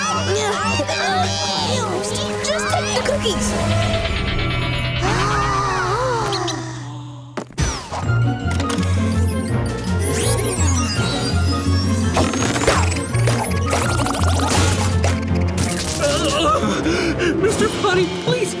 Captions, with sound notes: Just take the cookies! [gasping] [gasping] Mr. Potty, please!